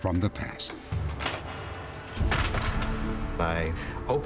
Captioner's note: clanking